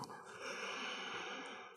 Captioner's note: exhale